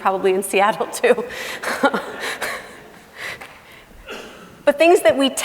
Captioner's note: laughing